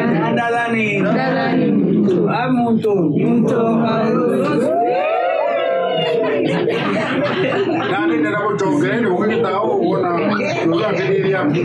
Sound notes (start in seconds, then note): 6.0 hearty laughter